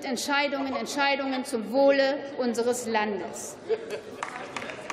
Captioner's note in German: Beifall